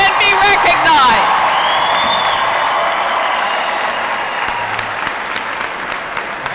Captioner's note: applause